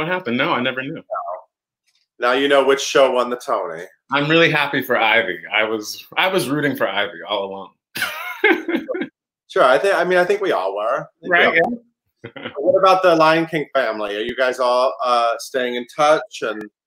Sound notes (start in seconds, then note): 12.8 laughs